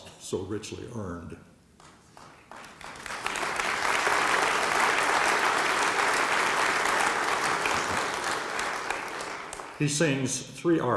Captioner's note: applause